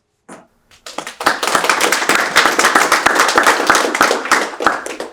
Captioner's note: audience applauding